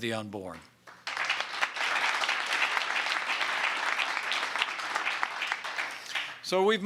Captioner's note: applause